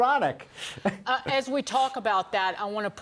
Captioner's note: laughter